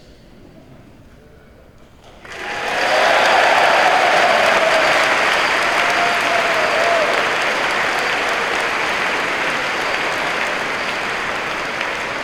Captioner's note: applause